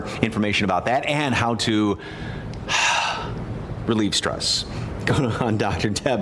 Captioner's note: exhales deeply